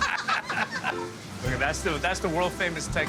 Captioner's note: both laugh